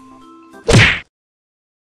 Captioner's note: smack